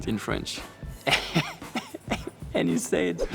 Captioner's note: giggles